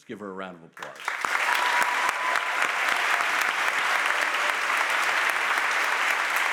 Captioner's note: audience applauds and cheers